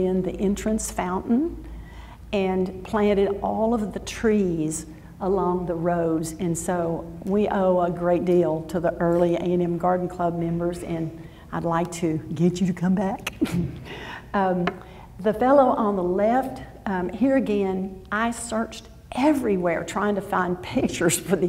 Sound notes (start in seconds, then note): 13.3 laughs